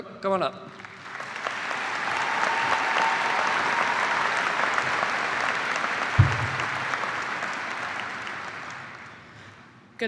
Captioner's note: cheers and applause